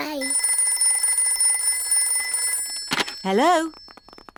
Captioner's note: phone rings